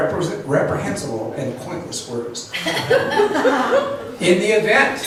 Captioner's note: laughs